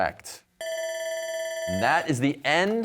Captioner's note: bell ringing